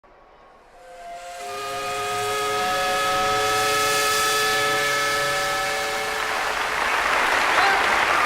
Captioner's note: steam whistle; applause